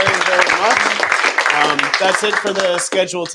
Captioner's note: applause